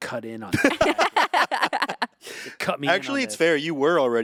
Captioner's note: group laughing